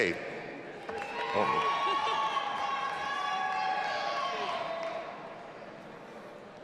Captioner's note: audience applauding and cheering